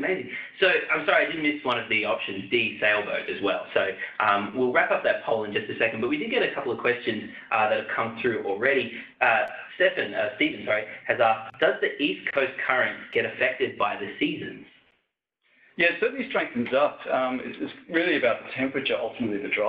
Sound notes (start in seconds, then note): none